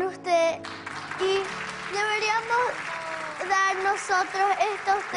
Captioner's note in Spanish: Aplausos